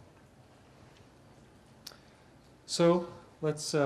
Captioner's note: pause